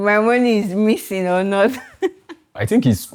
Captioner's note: laughs